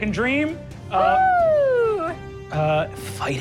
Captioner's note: Sofia cheers